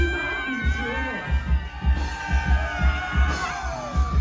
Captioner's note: cheers